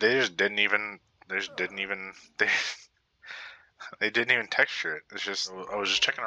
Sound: chuckling

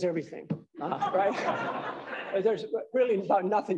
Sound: laughter

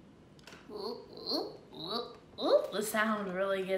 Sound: imitates slug squelching

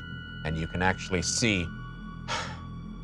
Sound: sighs

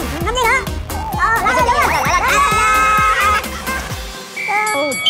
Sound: everyone's cheering enthusiastically

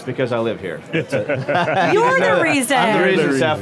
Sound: all laughing

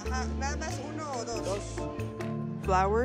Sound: woman speaking spanish

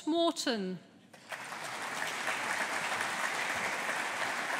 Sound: audience applauding

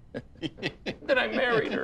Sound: laughing

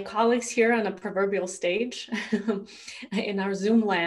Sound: chuckles

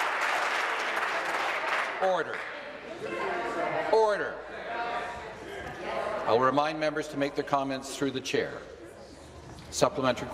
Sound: applause

